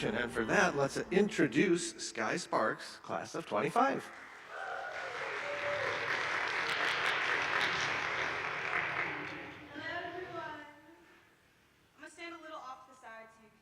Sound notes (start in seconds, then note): 4.0 attendees clapping